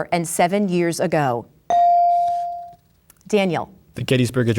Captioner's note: bell dings